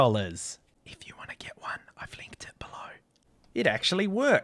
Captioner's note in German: flüstern